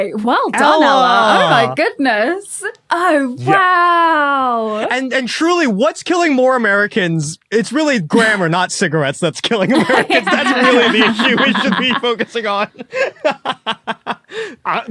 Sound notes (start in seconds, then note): 9.6 group laughing; 12.9 laughs heartily